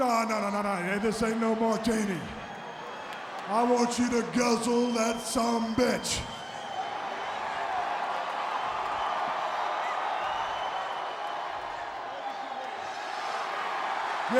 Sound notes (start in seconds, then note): 7.2 audience cheers